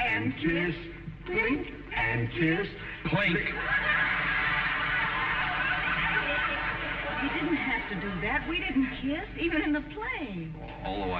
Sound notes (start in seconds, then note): 5.5 audience laughing